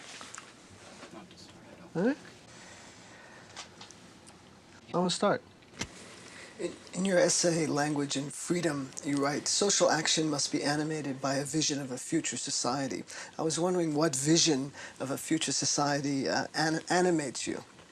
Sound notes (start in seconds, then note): none